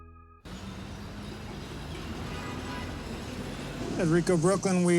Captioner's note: truck rumbling